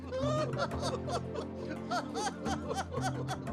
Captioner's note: laughter